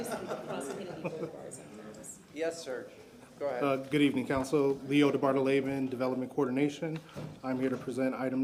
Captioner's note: laughter